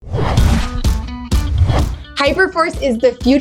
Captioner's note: air whooshing; upbeat music